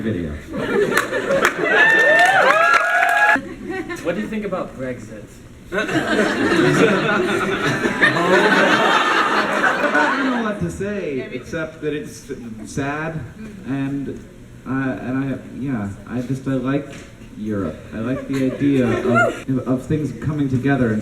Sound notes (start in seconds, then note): 0.6 crowd cheers; 7.7 crowd is cheering uncomfortably